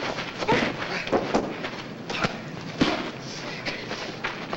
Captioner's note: blows landing